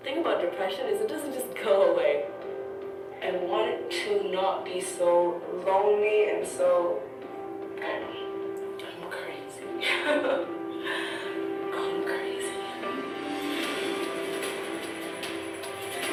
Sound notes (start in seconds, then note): 9.8 laughs; 13.0 uplifting music